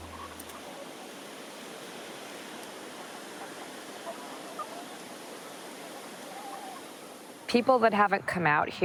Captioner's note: chickens clucking